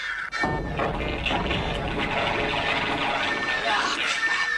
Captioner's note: sirens, sounds of battle